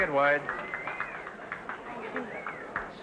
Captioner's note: audience applauding & whistling